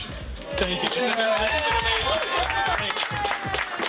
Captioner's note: clapping